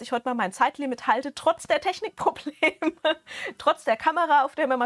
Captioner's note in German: Gelächter